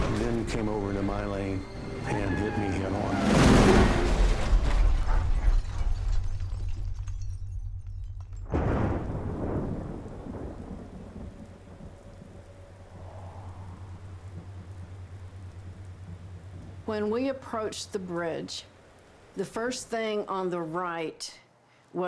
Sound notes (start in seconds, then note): 3.0 crash; 8.4 thunder